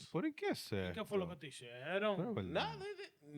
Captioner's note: speaking In Foreign Language